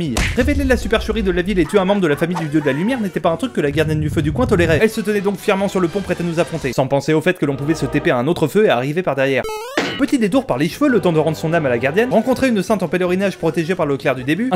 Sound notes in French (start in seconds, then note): 9.4 clang; 9.5 Boing